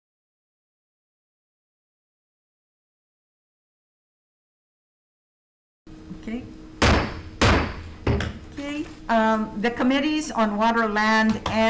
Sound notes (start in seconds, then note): 6.8 gavel bangs